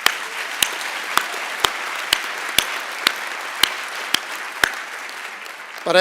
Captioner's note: applause